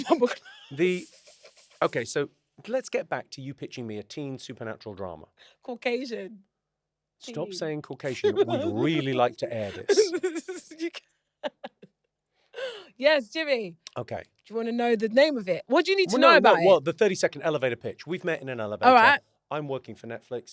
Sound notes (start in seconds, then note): 0.0 laughs; 10.9 London laughs